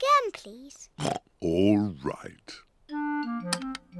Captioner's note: oinks